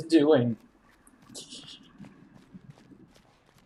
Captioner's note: laughs softly